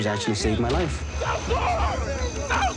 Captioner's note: yelling